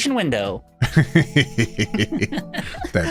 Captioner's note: laughing